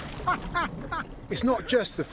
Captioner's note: laughing